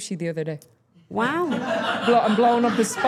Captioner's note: staff laughing